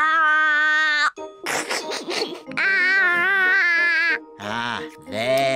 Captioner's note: giggles